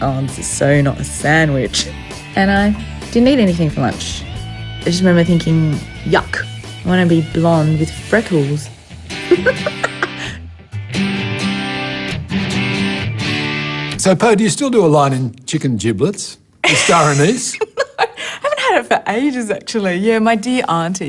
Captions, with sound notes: "Oh, this is so not a sandwich." And I didn't eat anything for lunch. I just remember thinking, yuck - I want to be blonde with freckles. (LAUGHS)' So, Poh do you still a line in chicken giblets...in star anise? No. Haven't had it for ages, actually. My dear auntie...